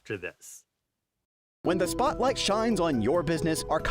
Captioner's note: voiceover